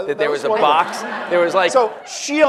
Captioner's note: audience laughs